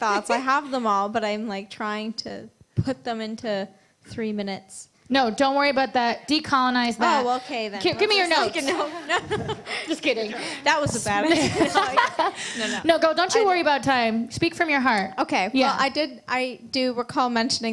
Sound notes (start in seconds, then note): 8.8 laughter